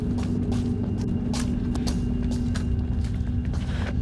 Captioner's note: foot steps